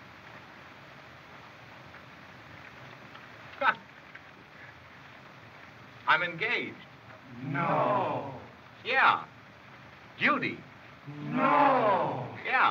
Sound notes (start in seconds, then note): 3.8 laughs